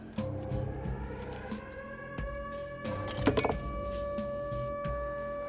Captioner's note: sirens